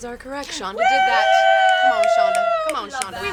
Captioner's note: cheering